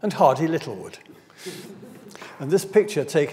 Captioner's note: audience laughs